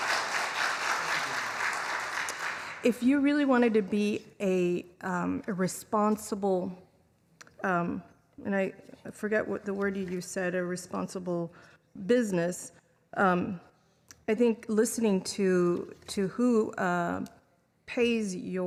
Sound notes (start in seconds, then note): 4.3 clapping